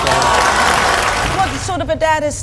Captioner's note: audience clapping